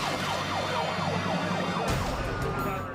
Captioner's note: police sirens